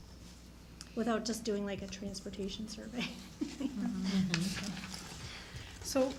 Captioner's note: laughs